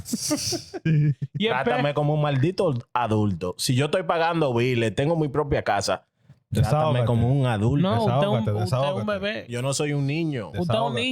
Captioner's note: laughing; speaking In Foreign Language